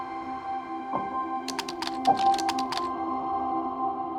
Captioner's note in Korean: 키보드 조작음